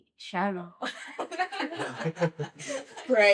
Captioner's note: laughing